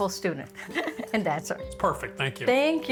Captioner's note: chuckling